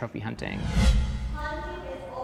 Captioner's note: air whooshing